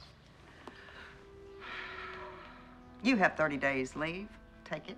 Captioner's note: sighs